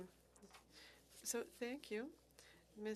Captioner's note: speaking French